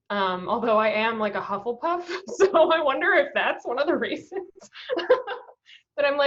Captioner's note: laughs